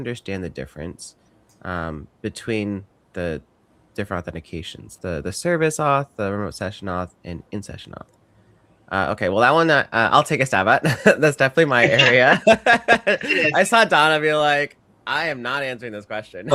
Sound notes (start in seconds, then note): 11.7 chuckles; 11.7 laughs